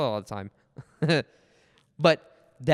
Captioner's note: laughs